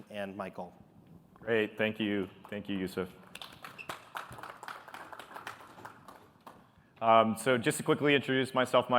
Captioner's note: applause